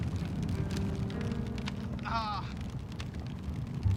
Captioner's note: grunting